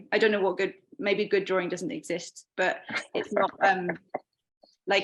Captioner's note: chuckling